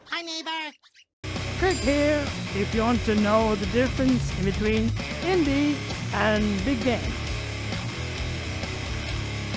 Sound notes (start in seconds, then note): 1.6 audio dings